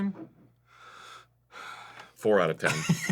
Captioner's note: sighs softly